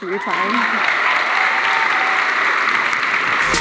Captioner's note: applause